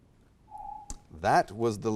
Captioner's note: alarm echoes